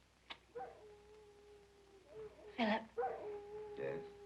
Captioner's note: dog howling